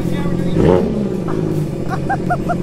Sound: engine revs; laughing

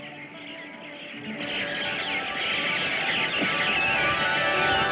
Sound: birds Chirping

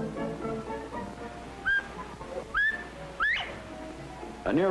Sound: bobwhite call

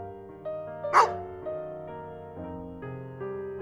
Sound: bark

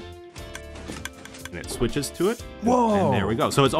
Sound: redstone clicking

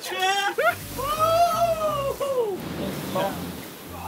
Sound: Josh screams; waves crashing

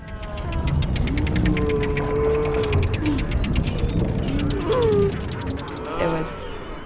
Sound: cow sounds

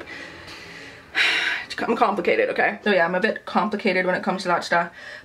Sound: sighs

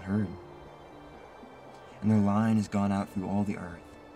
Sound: wind blows

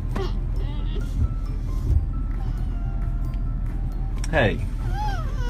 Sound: cries and sniffs

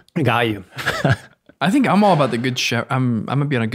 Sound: chuckles

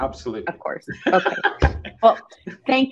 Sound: chuckles

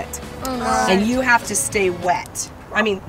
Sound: laughing

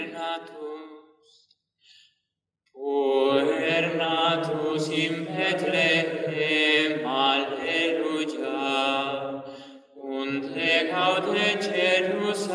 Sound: chant

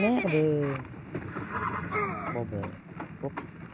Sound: screams in pain

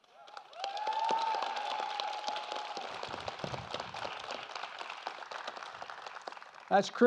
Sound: applause

